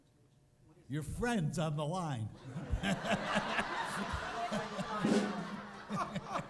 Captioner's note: laughter